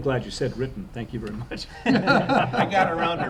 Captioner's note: laughter